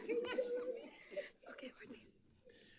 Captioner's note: audience laughing; audience chattering